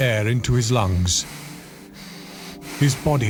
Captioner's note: Jacob breathing heavily